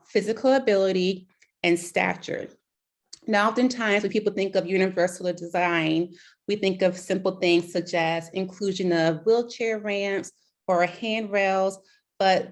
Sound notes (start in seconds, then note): none